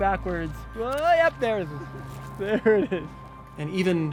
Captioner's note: chuckles